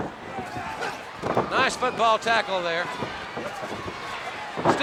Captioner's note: Sting thudding on ring